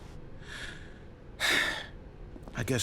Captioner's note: sigh